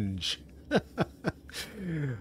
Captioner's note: laughter